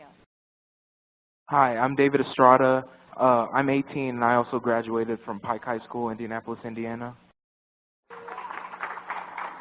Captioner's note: applause